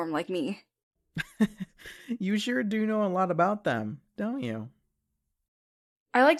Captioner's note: chuckles